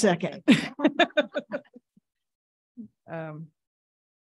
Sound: all laughing

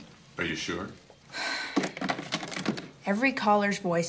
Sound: Caitlin sighs

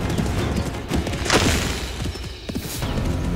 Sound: dramatic sound

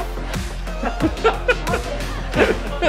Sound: laughing

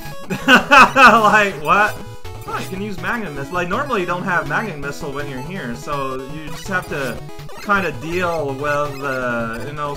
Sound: laughs

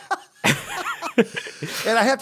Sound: laughs

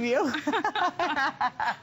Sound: laughter

